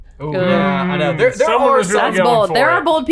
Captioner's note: all groaning